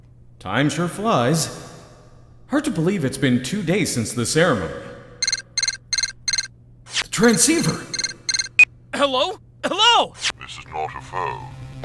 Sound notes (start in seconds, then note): 5.2 transceiver beeping!; 7.2 beep!